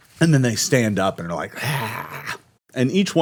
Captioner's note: snarls